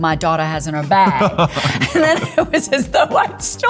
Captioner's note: Liam laughing